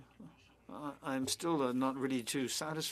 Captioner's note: speaking French